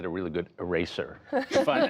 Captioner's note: laughter